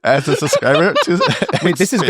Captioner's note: all laughing; laughing